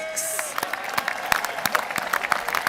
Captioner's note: applause